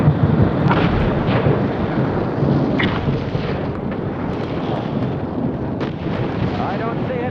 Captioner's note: explosions roaring